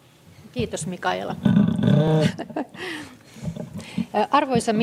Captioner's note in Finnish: naurua